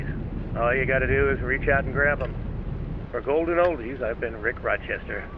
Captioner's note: radio